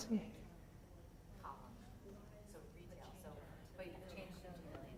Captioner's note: people chattering